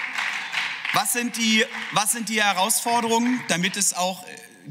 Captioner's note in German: Beifall